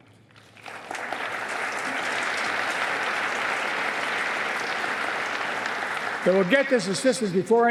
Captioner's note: applause